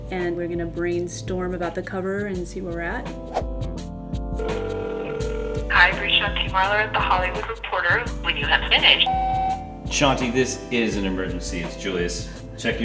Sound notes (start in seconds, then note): 4.4 phone ringing; 9.0 beep